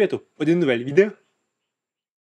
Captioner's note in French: silence